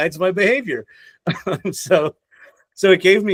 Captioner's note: laughs